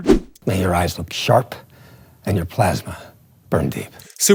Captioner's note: movie dialogue plays